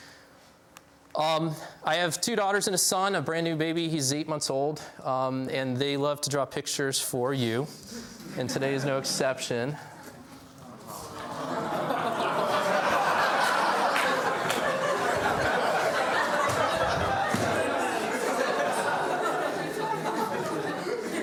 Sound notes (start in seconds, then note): 9.5 laughs from audience